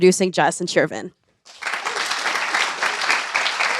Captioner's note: applause